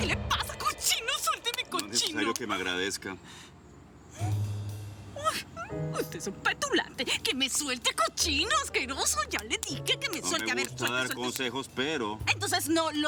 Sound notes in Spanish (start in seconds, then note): 0.0 Manotazos